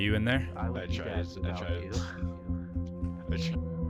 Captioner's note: voices inside